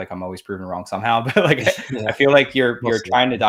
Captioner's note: both laughs